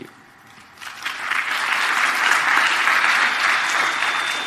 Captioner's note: applause